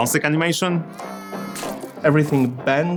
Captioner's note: baby cries